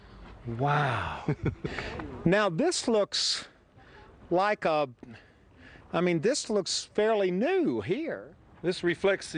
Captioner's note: laughs